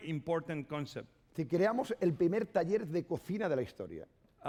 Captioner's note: speaking spanish